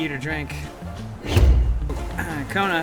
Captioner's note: metallic rubbing